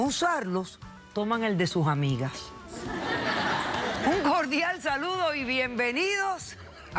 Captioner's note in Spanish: risas